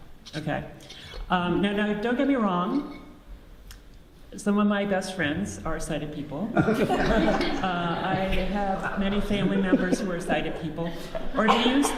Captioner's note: audience laughs